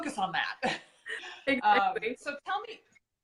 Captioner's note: laughing